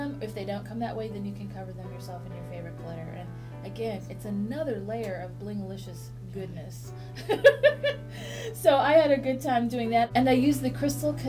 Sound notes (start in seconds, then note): 7.3 laughs